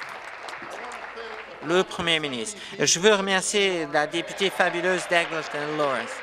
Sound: applause

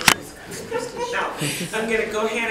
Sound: attendee laughs

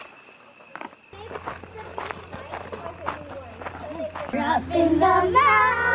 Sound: footsteps crunch

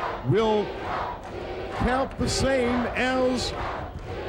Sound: crowd cheers

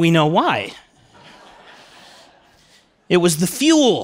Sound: laughter

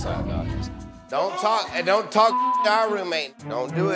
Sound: beep

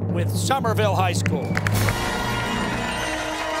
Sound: cheers and applause

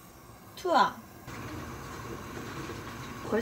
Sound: boiling

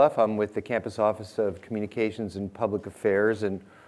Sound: none

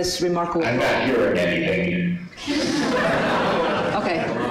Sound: laughter

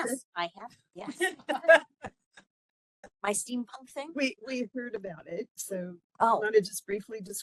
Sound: laughing

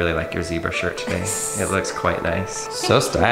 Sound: laughs

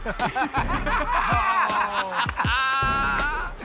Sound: laughter

